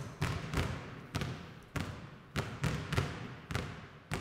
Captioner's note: dribbling